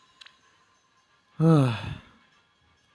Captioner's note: sigh